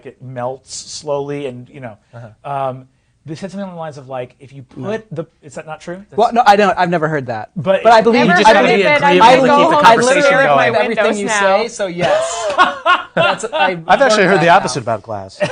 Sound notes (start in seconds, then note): 12.0 laughing